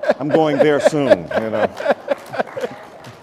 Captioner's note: applause